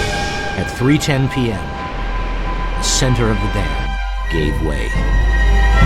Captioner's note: rushing water